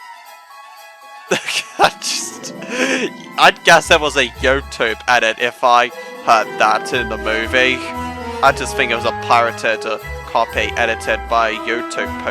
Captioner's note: chuckles